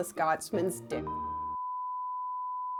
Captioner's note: beep